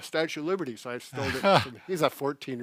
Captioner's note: laughs